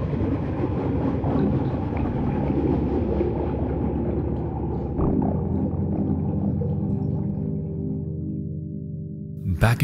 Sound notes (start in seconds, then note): 3.5 water sloshing; 6.5 enchanted music